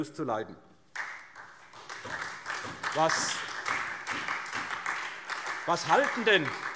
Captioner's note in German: Beifall SPD